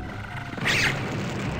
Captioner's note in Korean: 찍!